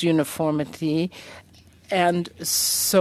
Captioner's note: speaking French